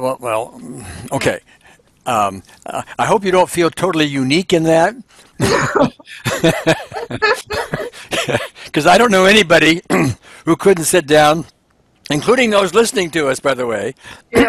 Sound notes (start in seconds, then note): 5.4 both laughing